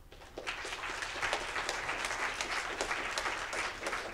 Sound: audience applauding

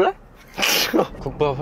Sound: haha

